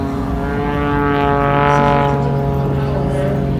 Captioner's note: engine noise